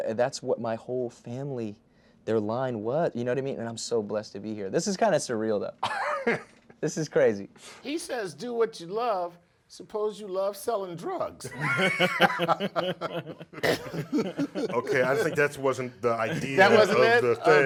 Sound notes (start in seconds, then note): 5.8 laughs; 11.4 laughs